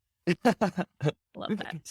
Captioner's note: chuckling